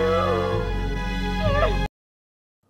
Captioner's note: sobs